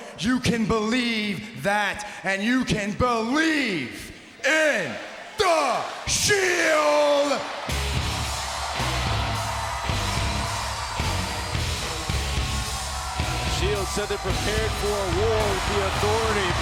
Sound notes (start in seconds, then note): 7.9 audience cheers; 7.9 dramatic music